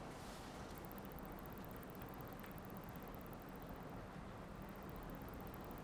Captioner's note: scanner clicking